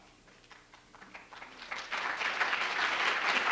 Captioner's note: applause